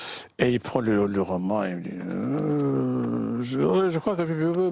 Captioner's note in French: il fait mine de marmonner